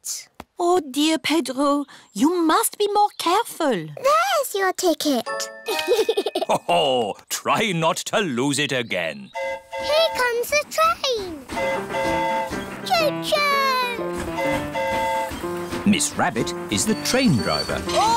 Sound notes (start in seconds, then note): 5.6 giggles; 9.3 train horn hooting; 11.8 train horn hooting